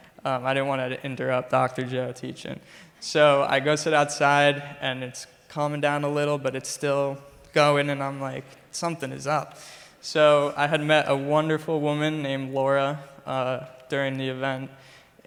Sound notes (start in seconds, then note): none